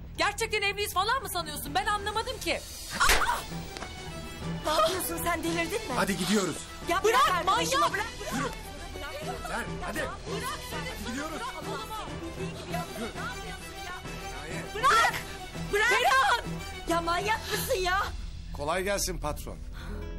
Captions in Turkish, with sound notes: Gerçekten evliyiz falan mı sanıyorsun, ben anlamadım ki? [ TOKAT SESİ ] Ne yapıyorsun sen delirdin mi? Hadi gidiyoruz. ( KAVGA SESLERİ ) Bırak! Bırak! Manyak mısın ya? Kolay gelsin patron.